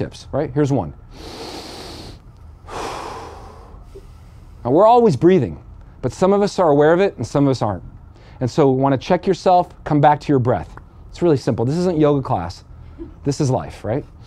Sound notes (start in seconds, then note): 2.4 deep breathing